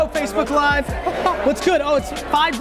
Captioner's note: laughs